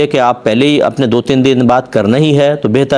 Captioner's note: none